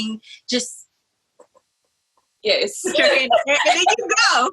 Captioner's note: laughs